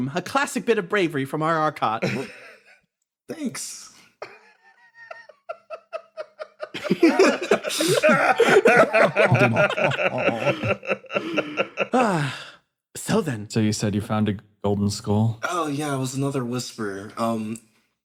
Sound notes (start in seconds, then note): 4.2 rising Laugh; 7.0 laughs